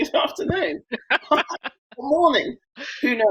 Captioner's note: laughing